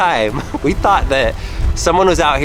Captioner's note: laughs